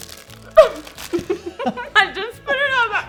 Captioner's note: both laugh